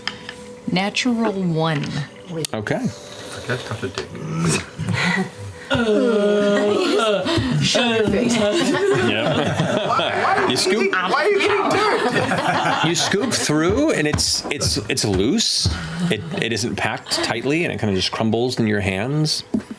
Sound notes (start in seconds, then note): 0.1 chuckles; 6.5 groaning; 8.0 laughter; 10.0 laughs